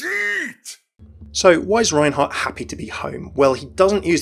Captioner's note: voiceover